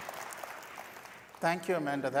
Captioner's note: applause